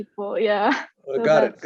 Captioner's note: chuckle